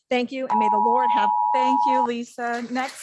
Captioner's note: timer beeping